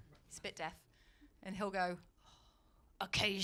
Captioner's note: sighs